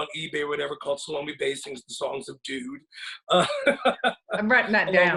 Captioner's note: laughs